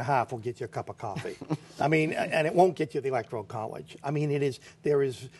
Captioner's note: laughter